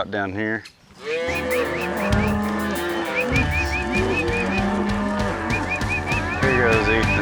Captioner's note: mooing, whistling